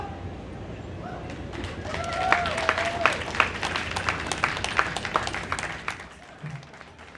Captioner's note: applause